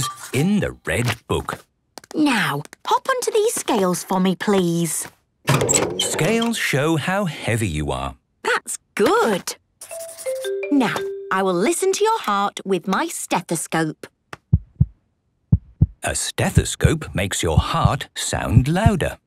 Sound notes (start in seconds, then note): 14.4 heart beating